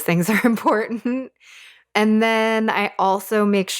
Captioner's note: laughs